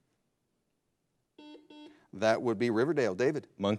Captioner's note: buzzer blares